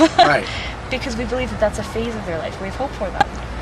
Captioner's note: laugh